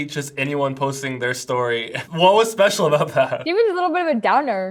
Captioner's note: chuckles